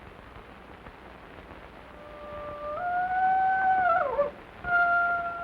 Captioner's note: wolf howling in distance